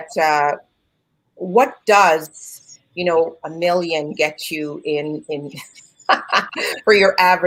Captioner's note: laughs